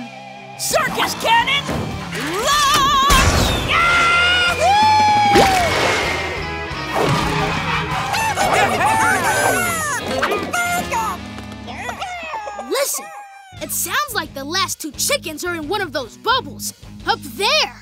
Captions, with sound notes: Circus cannon... launch! Ya-hoo! [cheering] [distant clucking] Listen, it sounds like the last two chickens are in one of those bubbles up there!